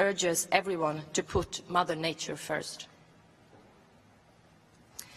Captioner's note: none